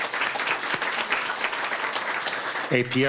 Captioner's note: applause